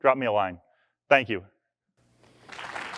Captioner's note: applause